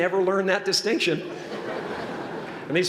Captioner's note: laughter